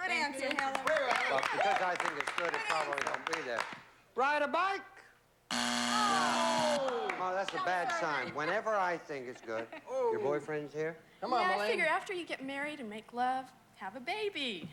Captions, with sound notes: BUT BECAUSE I THINK IT'S GOOD, IT'S PROBABLY NOT GONNA BE THERE. RIDE A BIKE! [BUZZER] THAT'S A BAD SIGN. WHENEVER I THINK IT'S GOOD... YOUR BOYFRIEND'S HERE? YEAH. I FIGURE AFTER YOU GET MARRIED AND MAKE LOVE, HAVE A BABY.